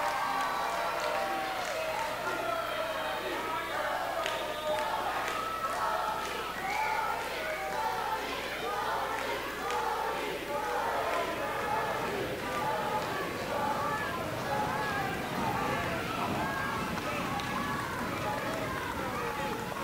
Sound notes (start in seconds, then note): 0.1 audience cheering; 3.7 audience chanting "Tony"